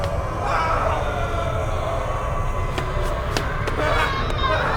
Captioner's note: mummies groaning